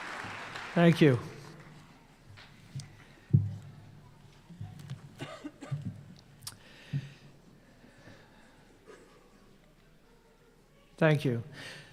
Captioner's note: applause